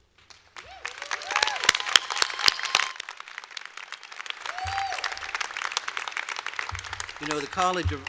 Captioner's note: applause